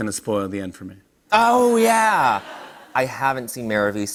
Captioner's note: laughter